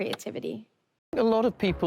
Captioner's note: click